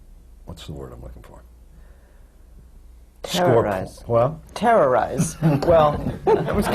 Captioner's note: laughter